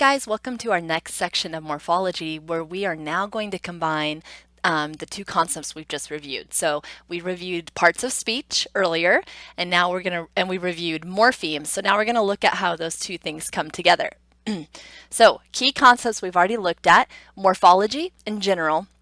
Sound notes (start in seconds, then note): 14.4 clears throat